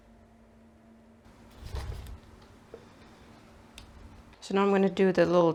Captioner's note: quiet ironing noises